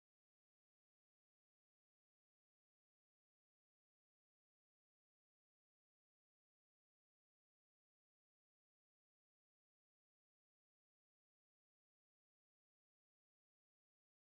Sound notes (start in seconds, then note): none